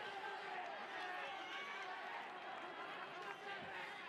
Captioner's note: cheering